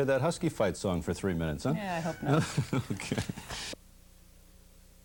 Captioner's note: laughing